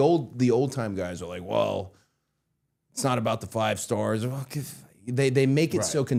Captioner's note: scoffs